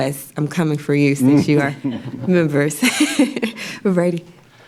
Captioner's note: laughs